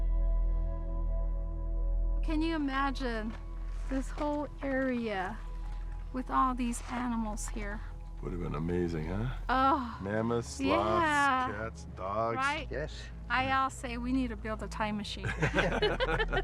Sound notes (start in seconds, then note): 9.1 sighing